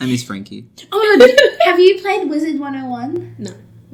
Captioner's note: laughs